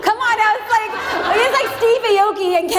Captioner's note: audience laughs